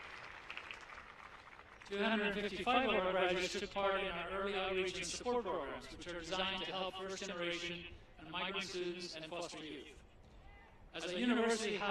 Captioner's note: applause